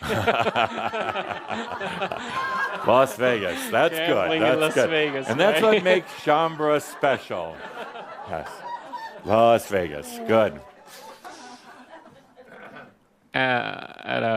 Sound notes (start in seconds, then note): 7.0 more laughter